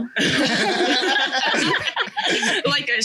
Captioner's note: all laugh